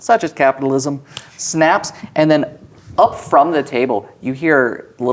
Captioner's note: snaps fingers